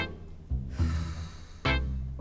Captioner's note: sigh